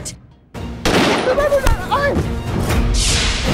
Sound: gun firing; shocking music playing

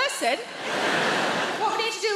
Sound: audience laughs

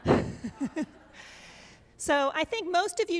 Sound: audience laughs

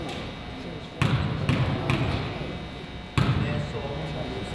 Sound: crowd chatters

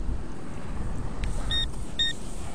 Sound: beep Beep

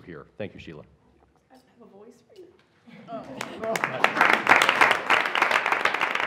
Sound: applause

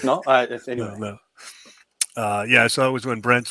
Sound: chuckling

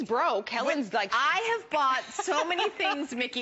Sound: laughter

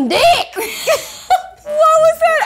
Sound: laughing

